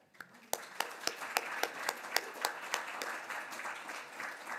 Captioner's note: applause